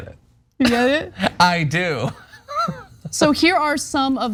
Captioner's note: laugh